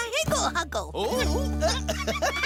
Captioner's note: laughing